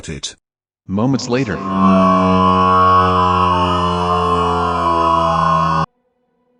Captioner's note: screaming in agony